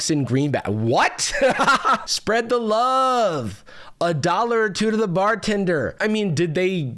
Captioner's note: laughs